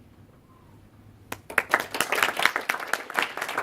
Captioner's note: applause